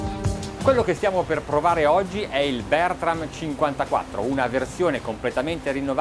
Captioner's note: speaking in foreign language